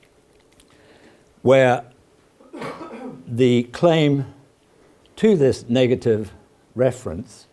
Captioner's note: cough